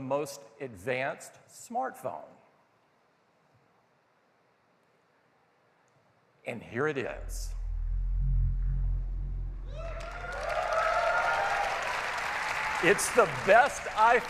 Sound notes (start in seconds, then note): 8.1 cheers and applause